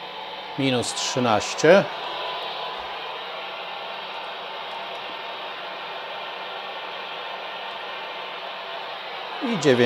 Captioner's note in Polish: Aplauz